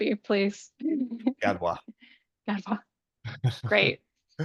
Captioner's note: laughs; laughs